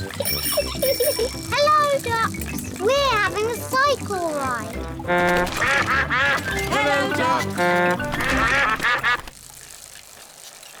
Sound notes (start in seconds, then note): 0.0 giggles; 4.4 all quack; 4.8 toots horn; 8.5 all quack